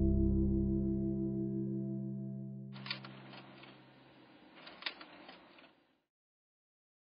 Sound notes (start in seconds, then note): 2.7 tapes shuffling